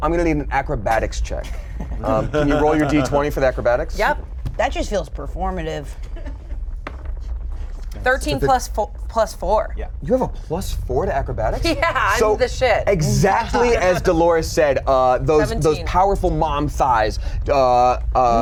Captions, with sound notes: I'm gonna need an acrobatics check. (players snicker) Can you roll your D20 for the acrobatics? - Yep. - That just feels performative. (rumbling continues) (crew member laughs) - 13 plus 4. - Yeah. - You have a +4 to acrobatics? - Yeah, I'm the shit. (laughs) - So exactly as Delores said, those powerful mom thighs - 17.